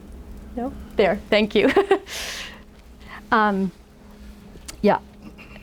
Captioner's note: laughs